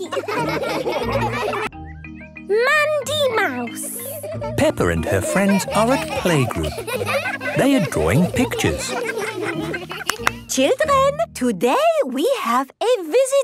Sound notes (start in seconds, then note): 0.0 laughing; 8.9 laughter